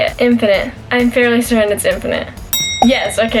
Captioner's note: bell ring